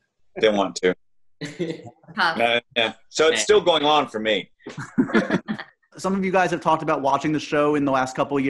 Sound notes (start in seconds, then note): 4.7 laughing